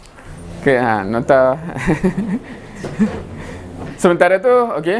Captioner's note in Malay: ketawa